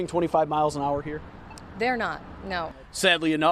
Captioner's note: cross walk beeping